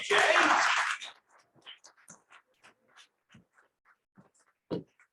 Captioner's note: cheering and applause